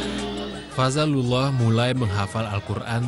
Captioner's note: non-english speech